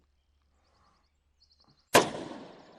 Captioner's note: gunshot